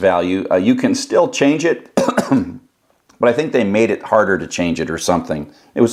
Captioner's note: cough